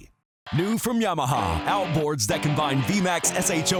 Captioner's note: voiceover